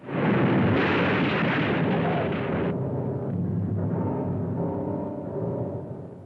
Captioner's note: car crashing; ominous music